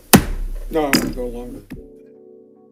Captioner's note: gavel bangs; calm music